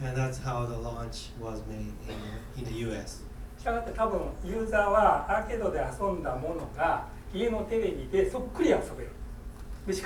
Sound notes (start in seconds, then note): 3.7 speaking in foreign language